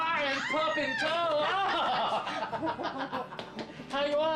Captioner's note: laughter